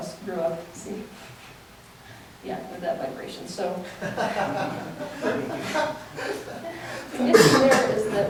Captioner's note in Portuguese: risos